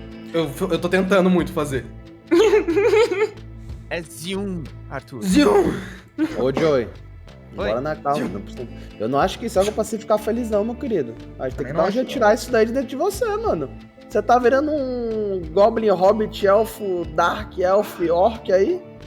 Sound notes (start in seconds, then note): 2.3 giggles